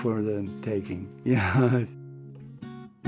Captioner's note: laughs